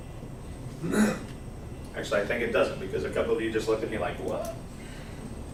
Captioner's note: clears throat